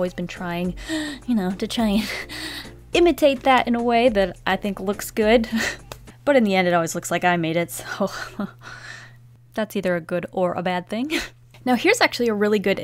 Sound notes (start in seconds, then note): 8.6 hesitant inhale